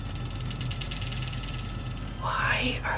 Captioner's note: metal vibrating